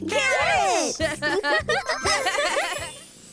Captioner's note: chuckling